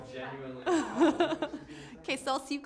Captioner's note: laughing